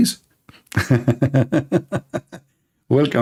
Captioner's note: Ketawa